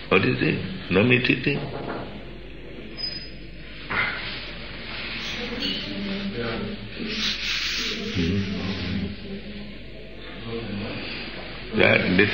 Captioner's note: knock on the door devotee enters with prasādam